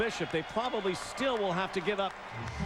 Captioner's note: crowds cheering